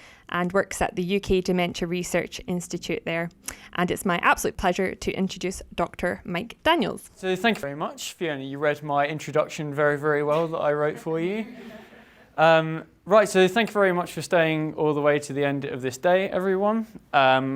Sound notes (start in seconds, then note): 11.9 audience laughing